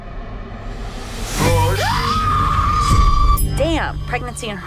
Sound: screams

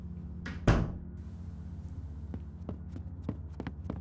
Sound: door closes

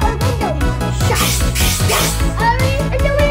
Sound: children imitate pneumatic door latch

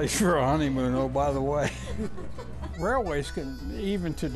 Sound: laughing

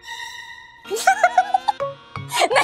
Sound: laughing

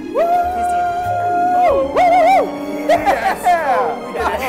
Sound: romantic music; team hoots and hollers

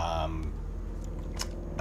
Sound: airplane gets louder

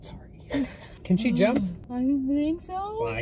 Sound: laughing

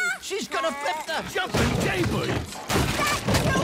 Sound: crash

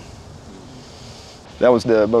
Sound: murmurs

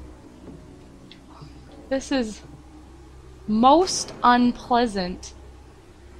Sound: sniffles

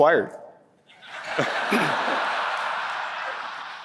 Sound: laughter

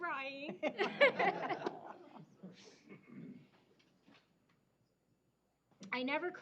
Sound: laughter

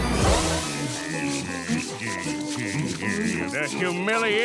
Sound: electronic music playing; grunting

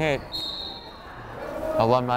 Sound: whistle blows

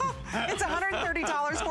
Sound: laughter

